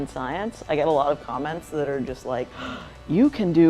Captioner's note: gasping